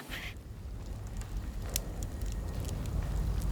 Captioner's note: fire crackling